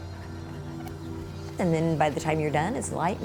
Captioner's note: jogger running